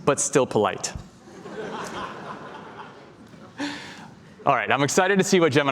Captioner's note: laughter